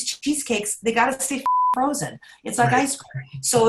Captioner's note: beep